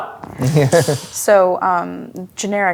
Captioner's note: laughing